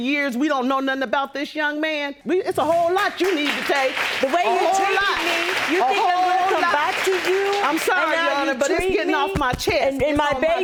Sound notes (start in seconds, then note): 2.6 audience applauds